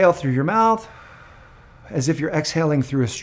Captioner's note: exhaling